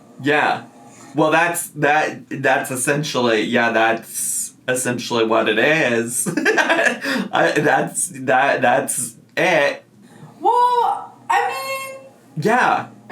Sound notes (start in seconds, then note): 6.2 laughs